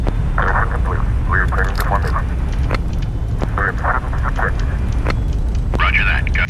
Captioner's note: crew Chatter